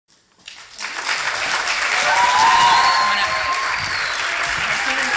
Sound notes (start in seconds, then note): 0.3 applause